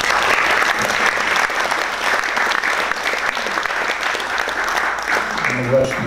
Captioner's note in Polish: oklaski